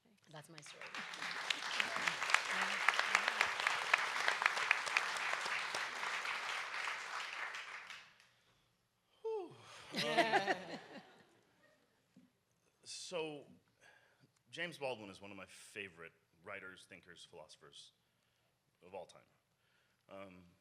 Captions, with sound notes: That's my story. (audience applauds) - Whew. (audience laughs) So James Baldwin was one of my favorite writers, thinkers, philosophers of all time.